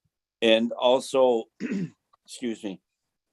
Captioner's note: clears throat